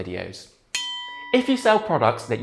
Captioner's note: bell ringing